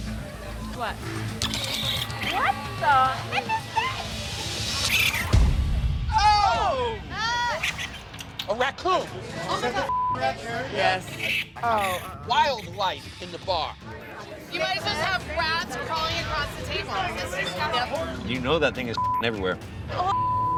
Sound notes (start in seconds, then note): 4.8 raccoon chittering